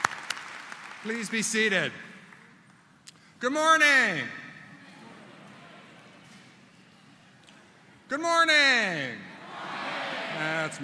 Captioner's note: applause